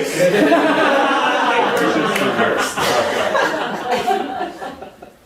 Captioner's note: audience laughing